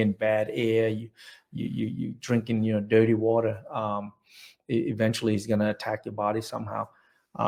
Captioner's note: none